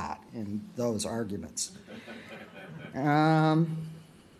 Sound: laughter

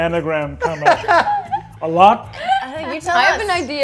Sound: laughing

